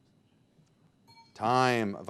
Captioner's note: bell dinging